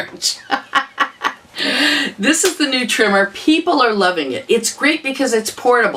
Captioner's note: laughter